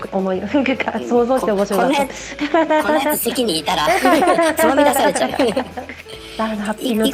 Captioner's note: laughs